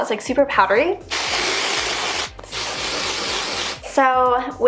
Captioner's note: spraying Hairspray